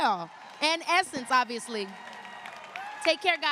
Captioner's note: applause